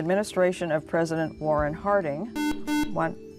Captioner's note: buzzer